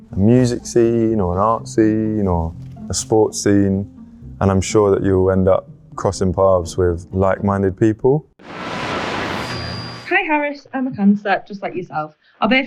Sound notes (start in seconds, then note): 8.4 radio buzzing